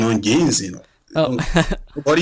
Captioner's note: laughs